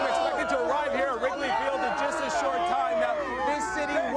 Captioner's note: cheers and applause